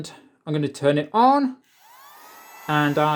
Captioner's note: turns on vacumm cleaner